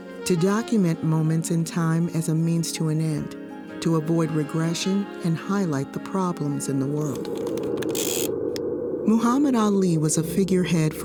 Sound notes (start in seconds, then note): 6.6 reel whirring; 7.1 air whooshing